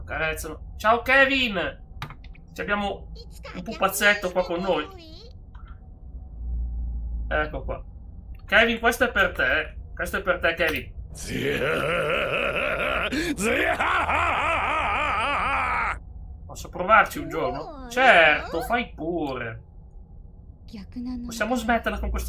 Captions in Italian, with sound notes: Accarezzano. Ciao Kevin. C'abbiamo un pupazzetto qua con noi. Ecco qua. Kevin, questo è per te. Questo è per te, Kevin. [gemito] [urlo] Posso provarci un giorno? Certo, fai pure. Possiamo smetterla con